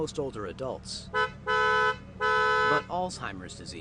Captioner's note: honking